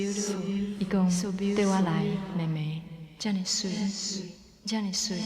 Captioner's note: speaking Taiwanese